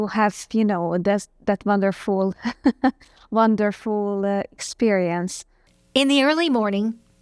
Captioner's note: laughs